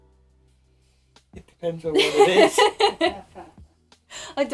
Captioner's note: laughing